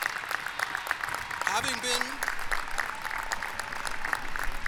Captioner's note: applause